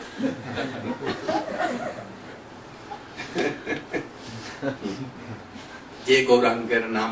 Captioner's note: смех